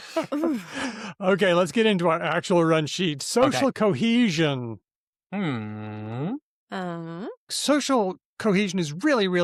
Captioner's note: laughs